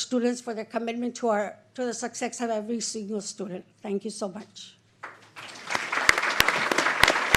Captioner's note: applause